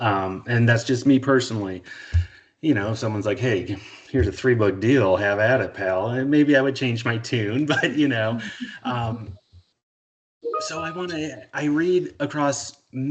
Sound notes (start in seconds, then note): 8.4 chuckling